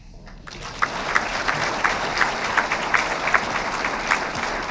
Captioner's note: audience applauds